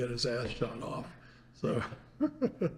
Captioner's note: laughs